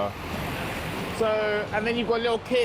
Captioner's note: truck engine rumbling